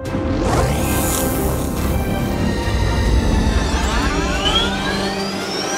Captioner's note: hydraulics activating; rocket fuel pumps activating